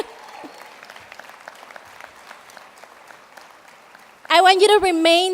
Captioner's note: applauding